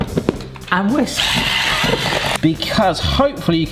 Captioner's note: whisk whizzes